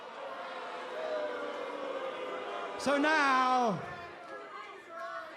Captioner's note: crowd chatter